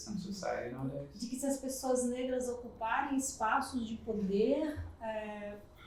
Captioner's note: speaking portuguese